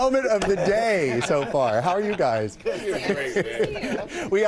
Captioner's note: laughter